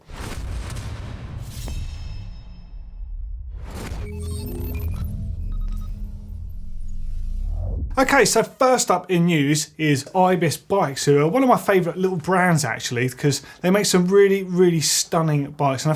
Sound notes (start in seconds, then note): 0.1 digital whooshing; 4.0 beeping